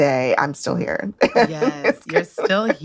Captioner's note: laughs